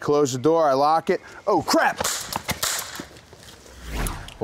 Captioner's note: gunshots